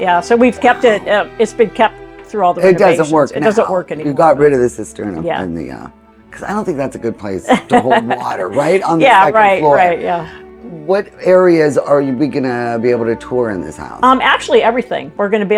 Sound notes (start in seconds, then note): 7.3 laughs